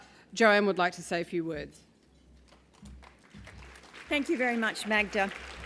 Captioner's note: applause